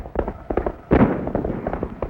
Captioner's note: gunshot